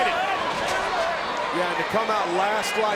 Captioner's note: crowd chattering